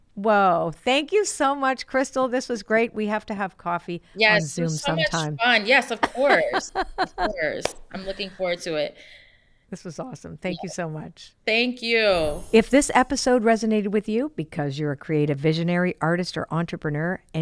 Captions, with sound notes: Whoa, thank you so much, Krystal. This was great. We have to have coffee on Zoom sometime. - Yes, this was so much fun. Yes, of course, of course. I'm looking forward to it. - This was awesome. - Yes. - Thank you so much. - Thank you. (sparkles chime) - If this episode resonated with you because you're a creative visionary artist or entrepreneur